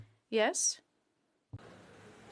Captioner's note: speaking French